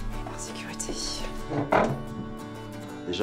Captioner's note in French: bruit de chaise